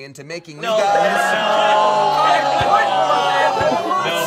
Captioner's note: all objecting